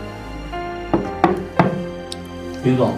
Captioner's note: knocking on the door